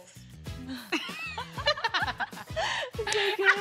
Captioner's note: laughing